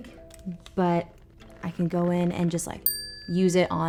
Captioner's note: bell pings